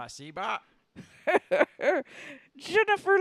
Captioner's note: Leia cackles